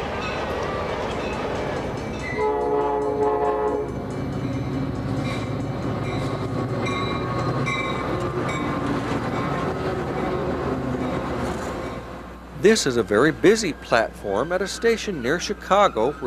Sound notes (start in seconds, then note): 2.1 train hoots; 6.3 train whirs